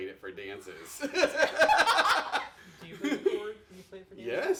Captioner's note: laughing